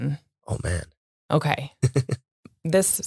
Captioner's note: chuckling